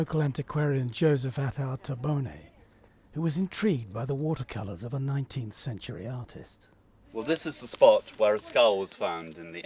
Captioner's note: none